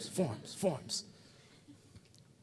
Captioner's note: audience chuckling